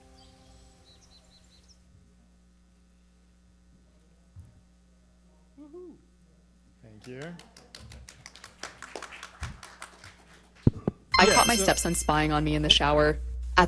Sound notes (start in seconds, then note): 0.0 birds chirping; 7.0 audience and panelists clapping